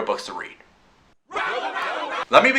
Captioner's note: angry crowd